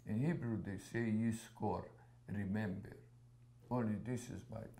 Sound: hebrew

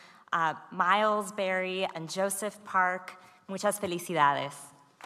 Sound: speaks foreign language

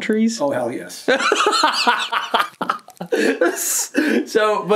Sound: laughs

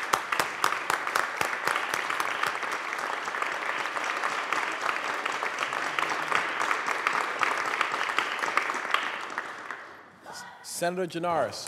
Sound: applause

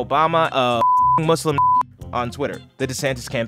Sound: beep

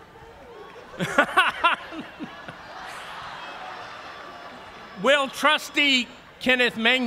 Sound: laughs

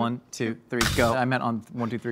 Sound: grate clangs

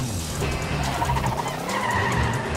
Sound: tires screeching

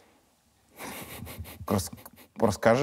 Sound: laughs

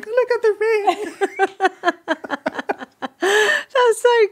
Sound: all laughing

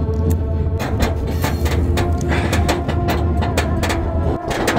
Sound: metal creaking loudly

